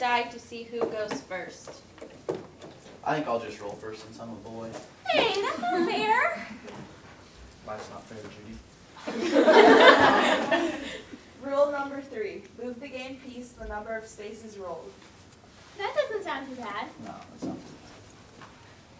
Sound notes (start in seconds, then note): 6.3 audience laughter